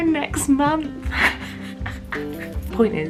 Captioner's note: laughs